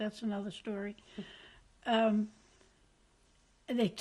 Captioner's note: pauses for 3 seconds